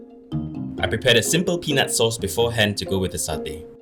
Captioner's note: voiceover